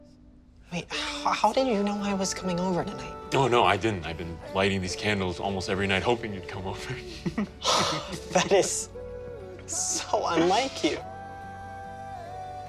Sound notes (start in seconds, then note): 6.9 exhales sharply; 7.1 chuckles